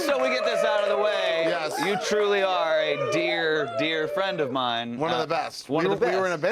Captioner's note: cheers and applause